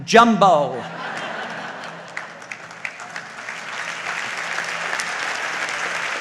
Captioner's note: audience laughs and applauds